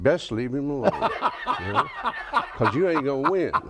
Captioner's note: laughs